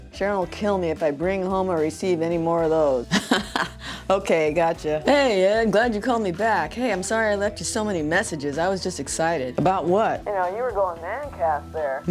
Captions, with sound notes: Sharon will kill me if I bring home or receive any more of those. -(laughs) Okay, gotcha. -Hey Ed! I'm glad you called me back. Hey, I'm sorry I left you so many messages. I was just excited! -About what? You know, you were going mancas there!